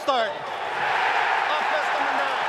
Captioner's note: cheering